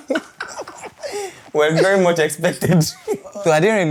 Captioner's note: laughs